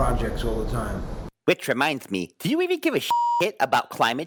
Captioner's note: beep